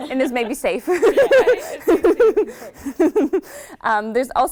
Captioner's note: laughing